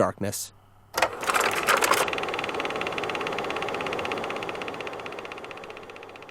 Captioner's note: film projector rattles and hums